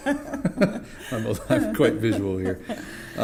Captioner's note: laughing; more laughter